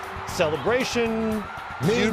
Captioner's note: crowd cheering